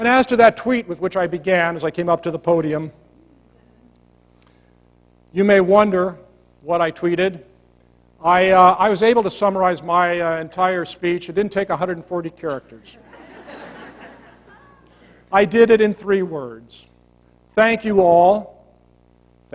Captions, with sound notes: And as to that tweet with which I began, as I came up to the podium. You may wonder what I tweeted. I was able to summarize my entire speech. It didn't take 140 characters. [LAUGHTER] I did it in three words. Thank you, all.